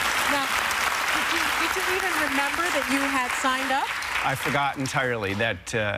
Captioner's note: applause